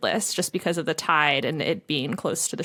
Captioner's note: none